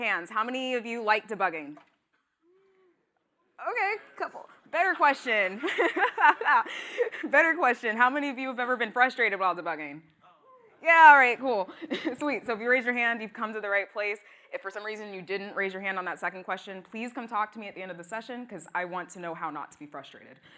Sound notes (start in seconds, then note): 5.5 laughter